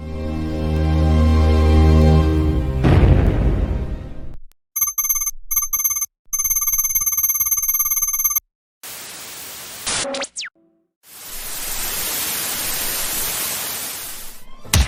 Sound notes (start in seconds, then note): 0.0 cinematic Music; 4.6 digital Typing Noise; 8.8 static Noise